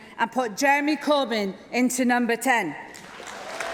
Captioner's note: applause